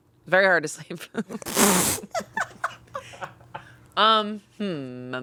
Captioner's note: all laughing